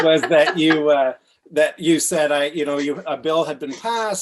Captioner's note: laughs